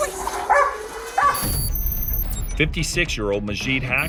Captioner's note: dog barking